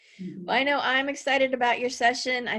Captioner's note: giggles